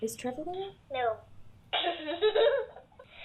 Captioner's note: giggling